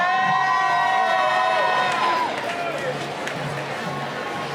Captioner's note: cheering